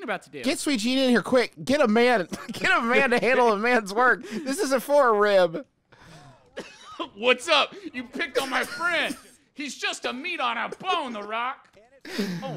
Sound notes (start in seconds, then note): 6.0 laughing